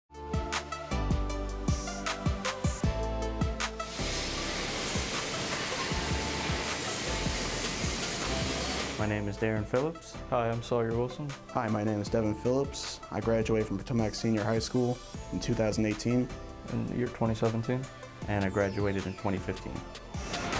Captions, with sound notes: (uptempo music) (welder hissing) - My name is Darren Phillips. - Hi, I'm Sawyer Wilson. - Hi, my name is Devin Phillips. I graduated from Potomac Senior High School in 2018. - In the year 2017. - And I graduated in 2015.